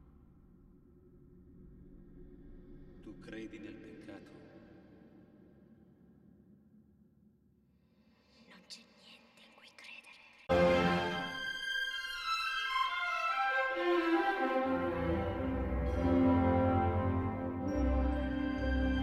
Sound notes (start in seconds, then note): 3.1 man speaking a European language; 8.0 woman whispering a European language; 10.5 dramatic orchestral music plays